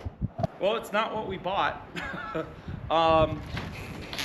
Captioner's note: laughs